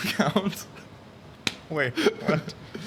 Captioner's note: laughs